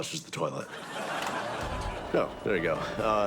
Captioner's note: studio audience laughs